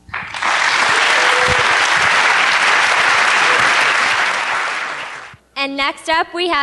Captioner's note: applause